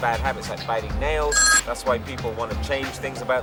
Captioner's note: phone ringing